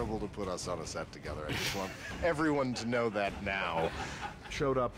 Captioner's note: all laughing